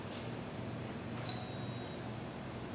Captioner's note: ding